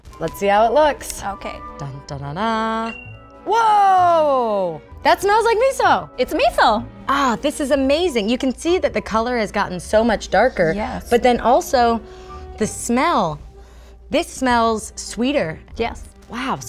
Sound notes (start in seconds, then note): 1.9 humming